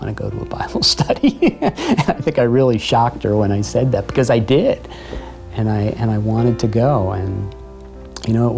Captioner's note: laughter